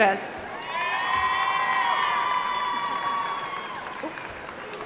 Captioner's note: audience cheering